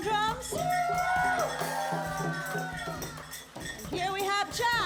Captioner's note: cheering